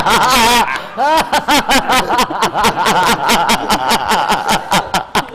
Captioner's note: laughter, especially